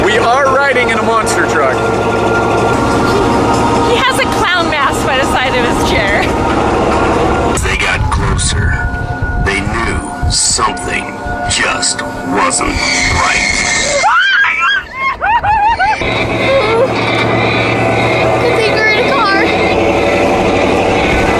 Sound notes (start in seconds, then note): 12.8 screams; 14.8 truck engine; 17.2 whimpers